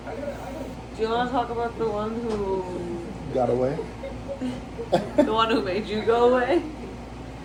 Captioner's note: chuckle